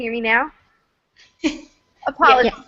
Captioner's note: laughter